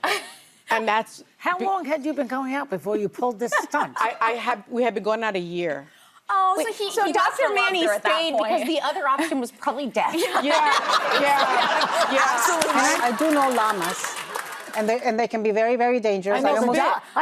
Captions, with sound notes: How long had you been going out before you pulled this stunt? We had been going out a year. Oh, so he got from under at that point. So Dr. Manny stayed because the other option was probably death. (audience laughs) I do know llamas. And they can be very, very dangerous.